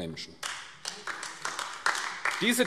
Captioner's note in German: Beifall AfD